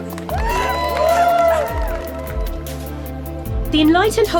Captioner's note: crowd cheering